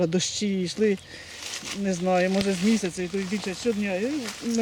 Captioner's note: rains